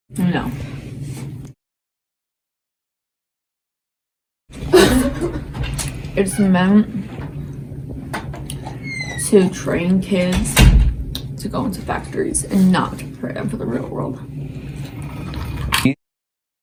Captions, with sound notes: No. (laughing) It's meant to train kids to go into factories and not prepare them for the real world.